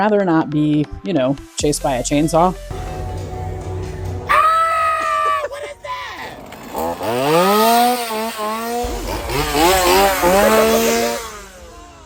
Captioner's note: chainsaw